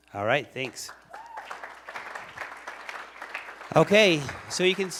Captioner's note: applause